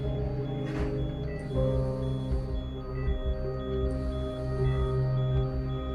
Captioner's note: monitor beeping steadily